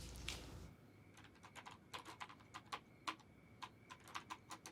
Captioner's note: keyboard clacking